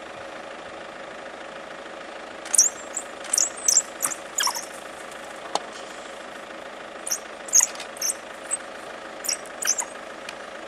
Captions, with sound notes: Intermission [Wild dog chirps] [human voice around] [Vehicle sound continues and dog sounds] [Chirping continues]